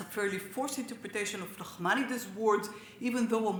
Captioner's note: speaks Hebrew